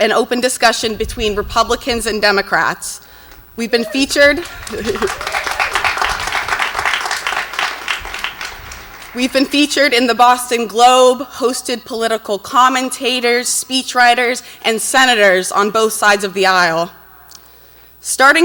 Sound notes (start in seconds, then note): 3.6 laughs; 4.0 audience cheers and applauds